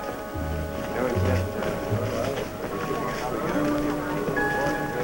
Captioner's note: chatter